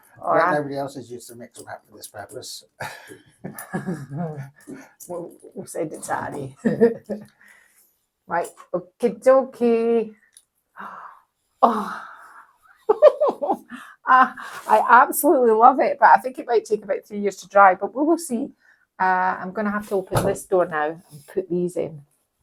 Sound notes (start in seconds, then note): 12.8 giggle